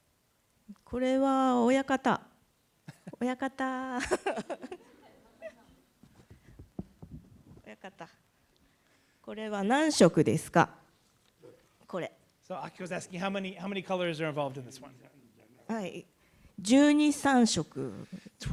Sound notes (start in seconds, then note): 0.8 laughs; 0.8 speaking japanese; 15.8 speaking japanese